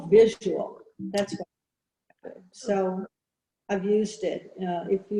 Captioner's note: audio glitch